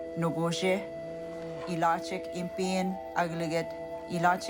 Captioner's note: animal grunts